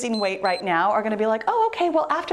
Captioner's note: timer beeps